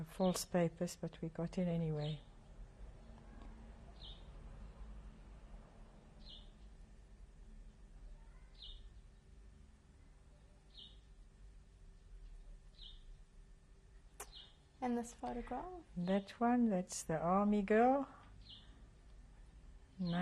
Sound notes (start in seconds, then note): 2.4 pauses for 12 seconds